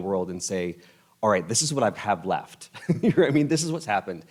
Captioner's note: laughs